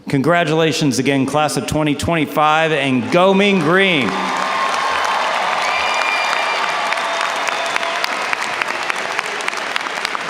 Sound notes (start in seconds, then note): 4.6 audience cheers and applauds